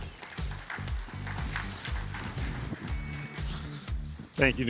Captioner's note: applause